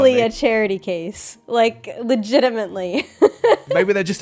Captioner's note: laughs